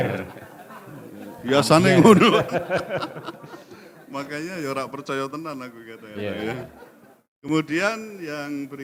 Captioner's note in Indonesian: tertawa